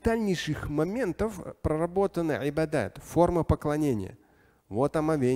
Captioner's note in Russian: говорит на арабском